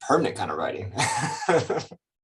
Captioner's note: laughs